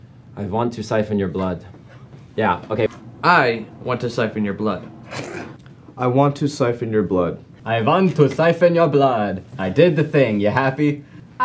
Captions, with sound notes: I want to siphen your blood. Yeah, okay-- I... want to siphen your blood. [snickering] I want to siphen your blood. I vant to siphen your blood! I did the thing, ya happy?